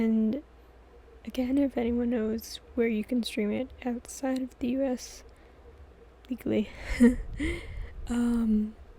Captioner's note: laughs